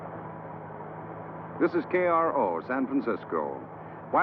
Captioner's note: radio Announcer